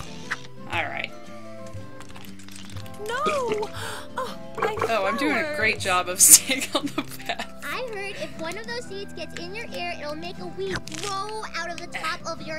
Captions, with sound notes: Alright. Oh, I'm doing a great job of staying on the path. (Laughs)